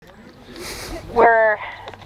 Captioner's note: audience chattering; birds chirping